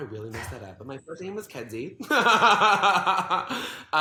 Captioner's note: laughs